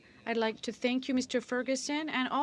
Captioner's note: speaking in french